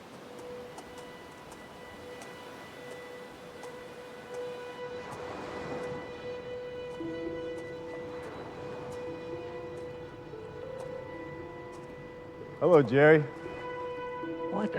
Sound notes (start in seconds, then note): 0.2 soft dramatic music; 5.1 waves lapping